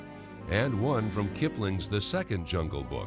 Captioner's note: none